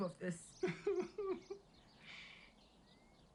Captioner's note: chuckles